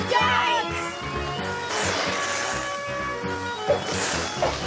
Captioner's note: air sputtering